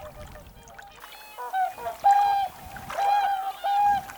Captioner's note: swans honking